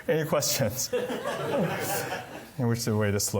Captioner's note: laughter